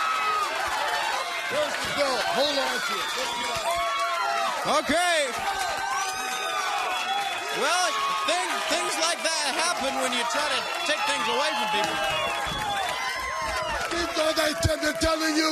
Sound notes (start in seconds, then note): 0.0 crowd cheering; 1.9 crowd chatter; 12.8 crowd chatter